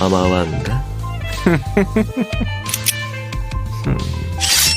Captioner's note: laughing